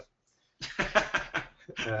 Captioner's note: laughing